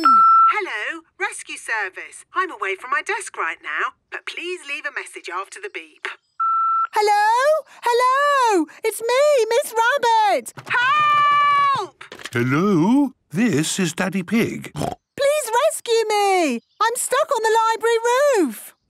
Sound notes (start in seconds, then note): 0.0 answering machine; 6.4 beep